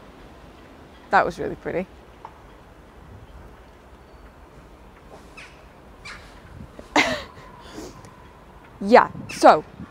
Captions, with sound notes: That was really pretty. [Chuckles] Yeah! So...